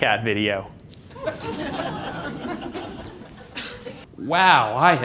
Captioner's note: audience laughter